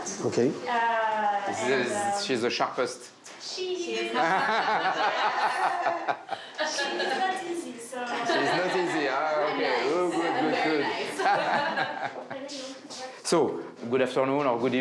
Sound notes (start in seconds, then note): 12.1 laughs